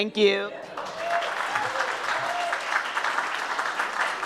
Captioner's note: audience claps